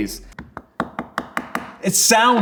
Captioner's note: knife handle tapping